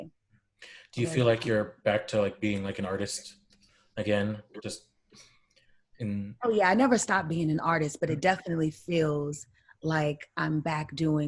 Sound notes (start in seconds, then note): none